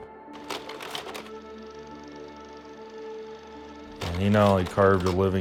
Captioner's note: sound of projector